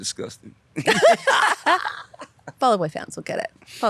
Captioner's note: both laughing